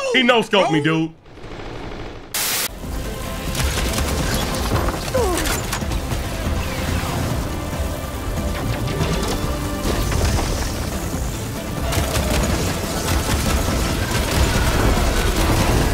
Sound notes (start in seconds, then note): 3.4 bow-gun firing; 5.2 Aloy grunting; 11.9 bow-gun firing loudly